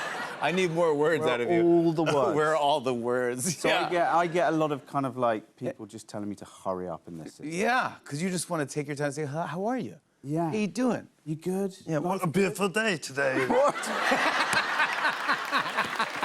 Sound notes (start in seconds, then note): 0.0 laughter; 12.2 deep voice; 13.3 laughter; 15.9 deep voice